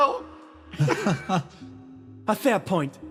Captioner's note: laughs